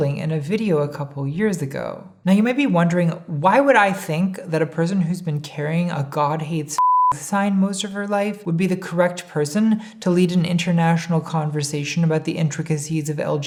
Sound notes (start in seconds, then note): 6.8 beep